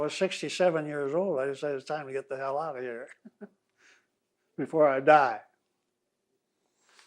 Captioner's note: laughs